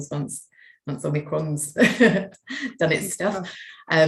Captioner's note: chuckles